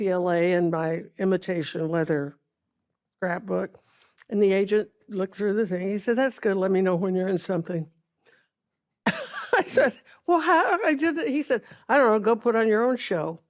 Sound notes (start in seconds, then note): 9.1 chuckles